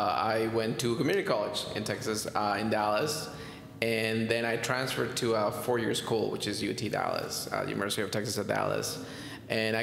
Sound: none

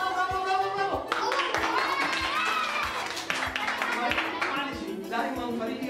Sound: cheering

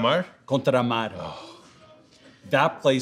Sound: sighs

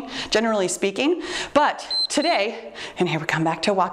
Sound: time beeps

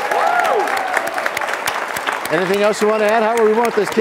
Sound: applause

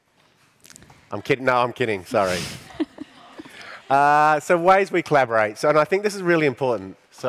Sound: laughing

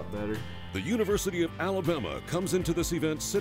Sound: voiceover

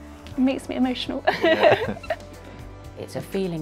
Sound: giggles

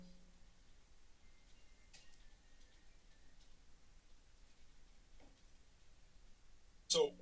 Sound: silence

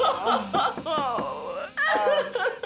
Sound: Maggie sobs; knock at door

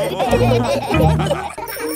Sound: all laughing

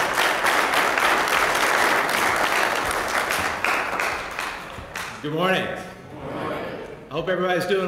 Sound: applause

